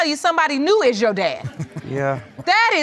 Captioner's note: all chuckle